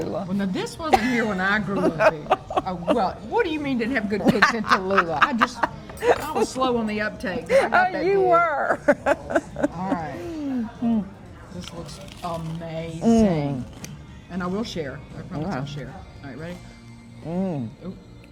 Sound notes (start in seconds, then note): 7.2 laughs